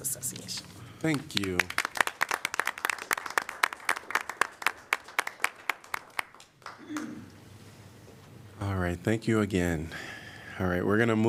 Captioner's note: applause